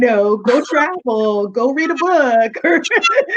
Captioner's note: laughing